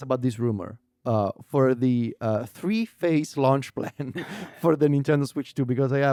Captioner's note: laughs